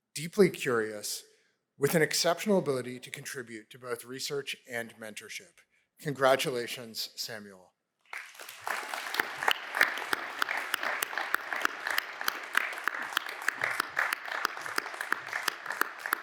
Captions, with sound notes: deeply curious, with an exceptional ability to contribute to both research and mentorship. Congratulations, Samuel. [APPLAUSE]